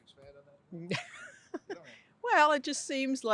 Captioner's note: chuckles